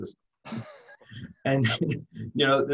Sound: laughs

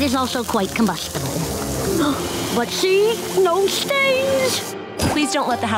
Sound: gasping

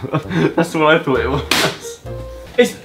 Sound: laughs; pops balloon

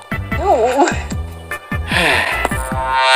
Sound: sighs

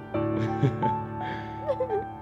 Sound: laugh

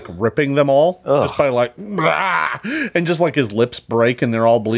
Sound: screams

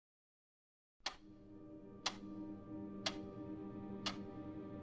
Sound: clock ticking

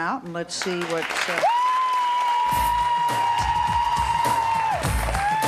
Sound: audience cheering

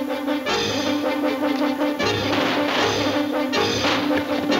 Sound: exciting music; guns shooting

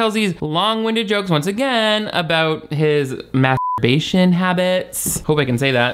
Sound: beep

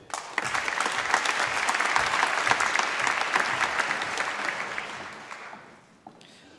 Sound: applause

